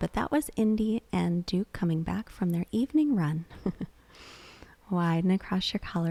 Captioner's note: laughs